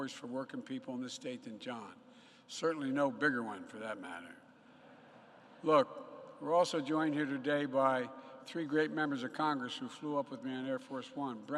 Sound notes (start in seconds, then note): 4.9 laughter